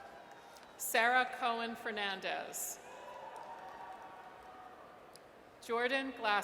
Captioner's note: audience cheers; audience cheers